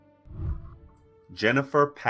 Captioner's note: whooshing